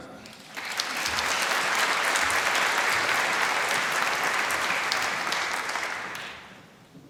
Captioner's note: applause